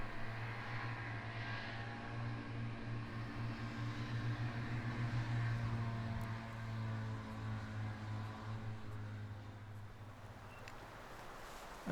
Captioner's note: sound of snowmobiles